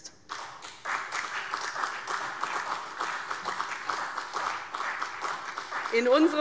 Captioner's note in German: Beifall